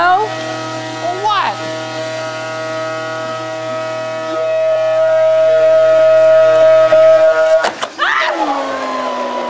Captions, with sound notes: - No! - Oh what! (blender blending) - Ah!